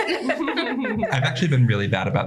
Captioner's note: laughter